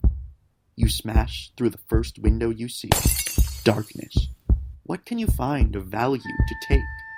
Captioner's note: glass shattering